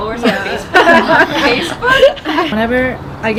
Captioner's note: laughing